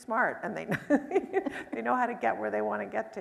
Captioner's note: chuckles